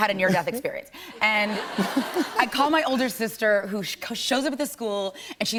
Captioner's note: laughter